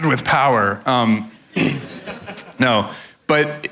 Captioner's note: crowd laughs